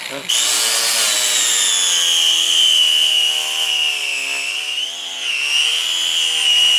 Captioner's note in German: Sägen Brummen